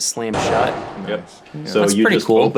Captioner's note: door slamming